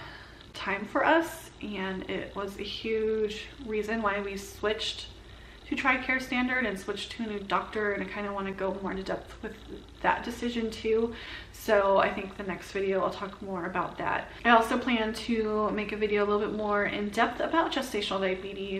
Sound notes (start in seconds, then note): none